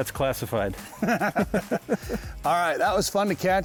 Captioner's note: laugh